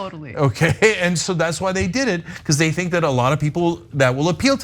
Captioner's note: laugh